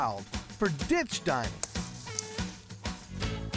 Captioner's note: snapping, cutting sound